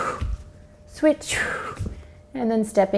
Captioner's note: exhales